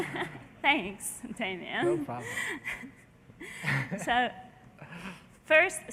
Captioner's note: laughter